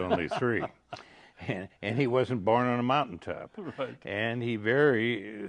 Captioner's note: laughing